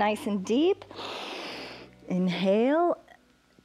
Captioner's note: inhales